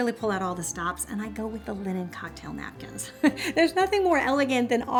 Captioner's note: laughs